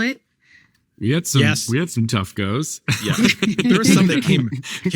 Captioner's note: laughing